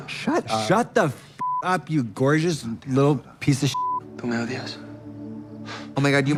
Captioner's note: beep